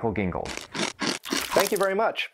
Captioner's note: chomping sound